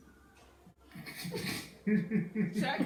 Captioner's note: everyone giggles